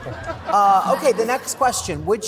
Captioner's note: laughter